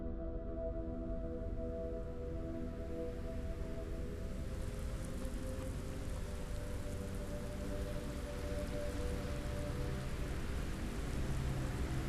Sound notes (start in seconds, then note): 0.3 solemn orchestral music continues; 3.1 rain pattering; 4.3 soft tense music